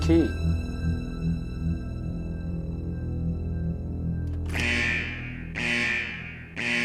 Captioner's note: suspenseful music continues; alarm ringing